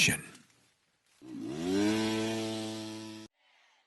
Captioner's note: motor noise